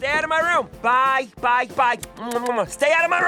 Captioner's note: smacking lips